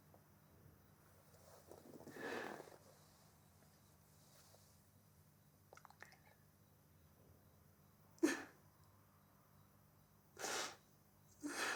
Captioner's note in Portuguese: choro